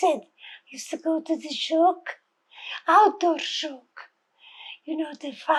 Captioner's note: hebrew